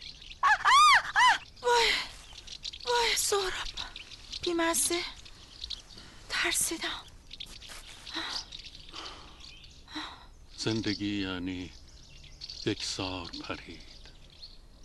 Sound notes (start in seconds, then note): 0.4 screaming; 8.9 heavy breathing